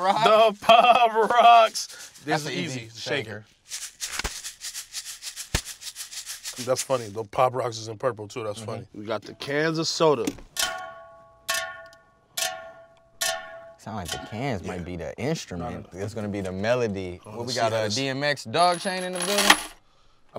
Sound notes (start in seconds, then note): 10.5 metal clanking